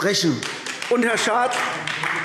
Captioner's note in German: Beifall AfD